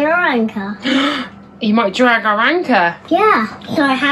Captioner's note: gasps